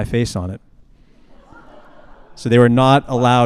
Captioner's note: attendees laughing